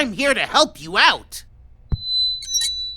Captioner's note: mic feedback squeals